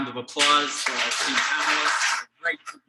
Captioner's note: audience clapping